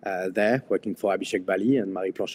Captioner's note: speaks a foreign language